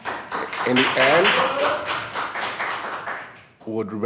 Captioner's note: applause